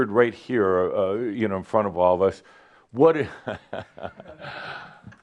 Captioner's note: Adamus chuckles